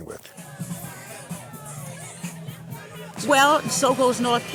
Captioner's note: lively music plays; people chattering